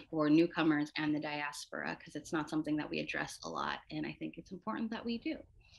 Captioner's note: none